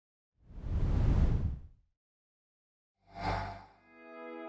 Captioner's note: graphic whooshing